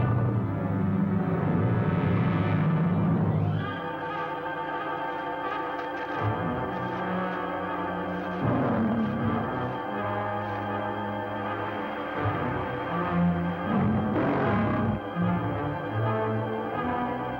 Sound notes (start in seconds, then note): 13.6 growling